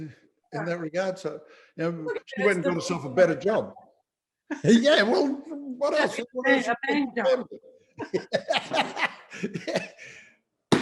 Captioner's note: laughing